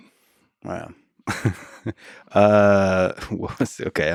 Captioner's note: Lex laughs